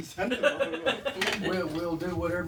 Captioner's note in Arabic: ضابط يضحك